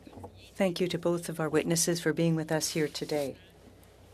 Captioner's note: speaking french